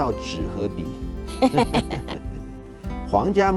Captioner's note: laugh